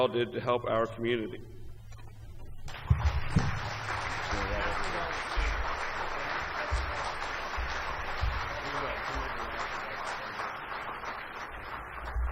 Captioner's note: applause